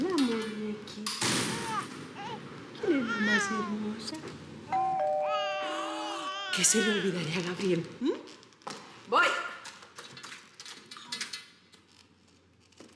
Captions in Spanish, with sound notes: HOLA, MUÑEQUITA. [Llanto de bebé] ¿QUIÉN ES LA MÁS HERMOSA? [Timbre de la puerta] [Llanto de bebé] ¿QUÉ SE LE OLVIDARÍA A GABRIEL, EH? VOY.